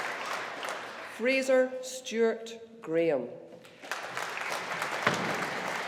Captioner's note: audience applauding